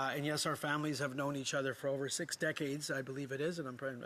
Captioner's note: speaking italian